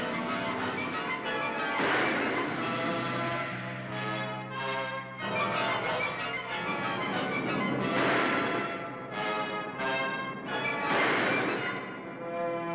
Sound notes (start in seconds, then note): 1.6 gun fires; 3.9 thrilling music; 8.1 guns firing